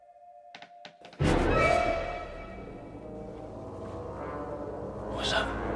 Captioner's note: wood creaking; dramatic music